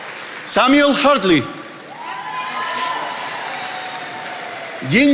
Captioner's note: attendees applauding